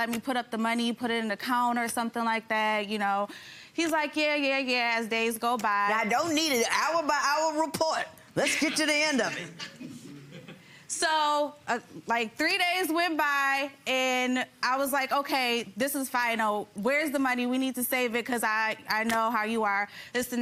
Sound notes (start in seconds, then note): 8.7 audience laughs